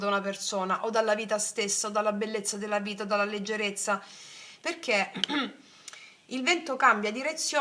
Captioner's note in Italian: schiarire la voce